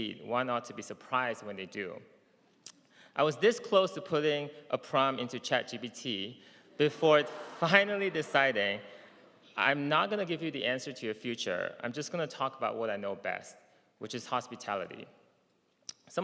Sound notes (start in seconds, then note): none